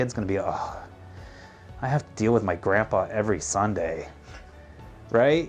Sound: sighs

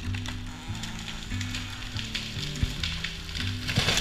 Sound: tree crashing

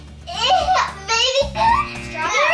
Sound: buzzer

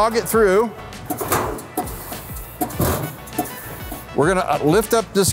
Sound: machine clanking and hissing

